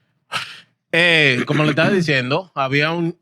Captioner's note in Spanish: Hablando en idioma extranjero